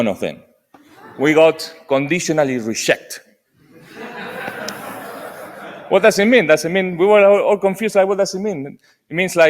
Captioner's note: laughter